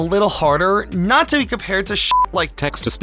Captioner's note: beep